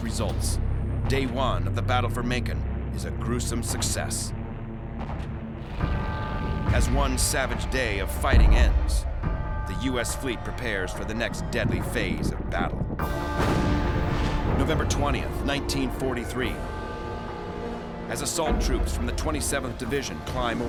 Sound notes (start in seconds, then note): 5.6 explosion; 13.3 gunfire